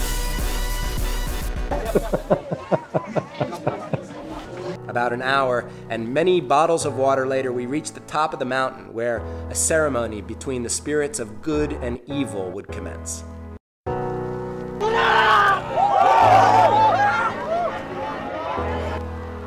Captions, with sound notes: (laughing) About an hour, and many bottles of water later, we reached the top of the mountain where a ceremony between the spirits of good and evil would commence. (cheering)